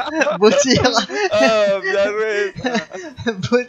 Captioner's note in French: rires